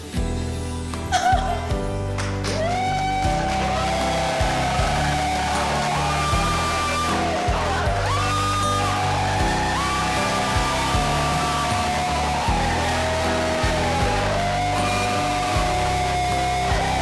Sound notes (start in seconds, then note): 1.2 cries; 3.3 crowd cheers wildly